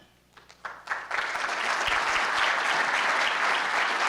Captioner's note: applause